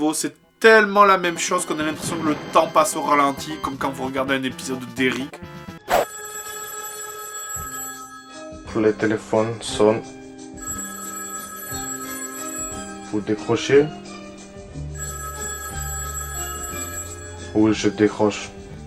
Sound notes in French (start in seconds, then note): 5.8 Sonnerie de téléphone; 8.6 Voix lente et monotone; 10.2 Sonnerie de téléphone; 14.3 Sonnerie de téléphone